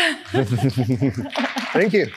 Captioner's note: applause